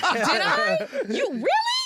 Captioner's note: laughter